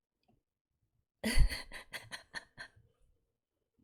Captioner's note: laughs